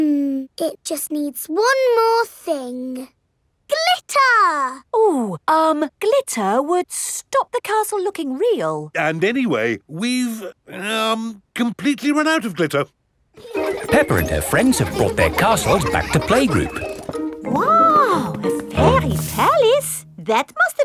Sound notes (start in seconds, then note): 13.4 children laughing